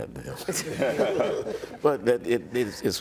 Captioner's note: laughter